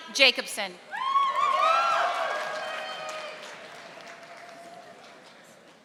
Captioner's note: audience applauding